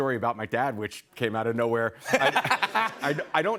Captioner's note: laughter